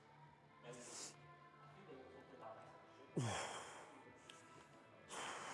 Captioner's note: sighing